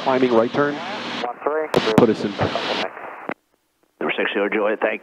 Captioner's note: radio murmuring